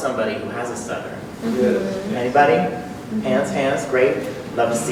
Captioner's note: a few "yes" responses in the audience